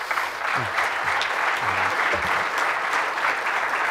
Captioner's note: applause